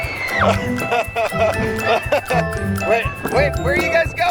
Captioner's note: kids squeal; laughs